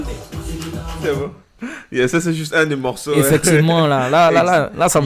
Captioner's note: laughs